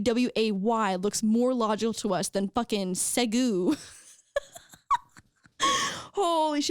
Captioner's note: laughing